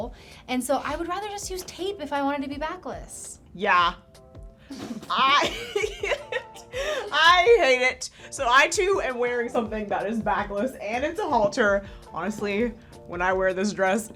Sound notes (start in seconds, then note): 4.7 laughs